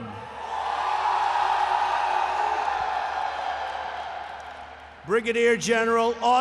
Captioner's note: applause